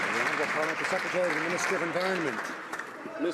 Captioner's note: some Applause